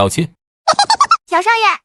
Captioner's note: uproarious laughter